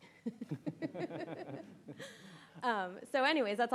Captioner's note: laugh